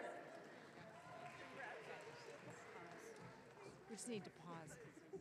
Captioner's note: audience cheering